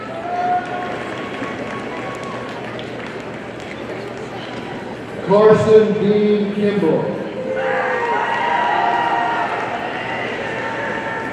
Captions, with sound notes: (audience applauding) Karsten Dean Kimbrough, (audience cheering)